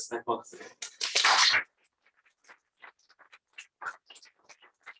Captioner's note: applause